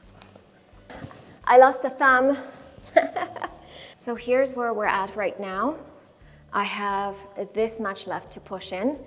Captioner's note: laughing